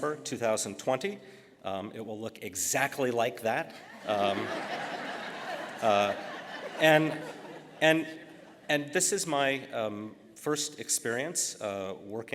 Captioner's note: laughter